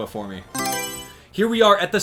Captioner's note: Mario Selection Sound